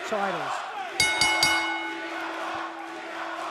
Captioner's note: crowd cheering; bell ringing